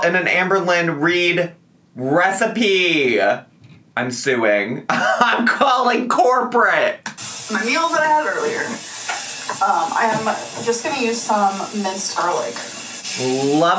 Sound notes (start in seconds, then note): 4.9 chuckles